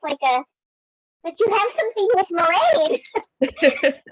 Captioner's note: laughs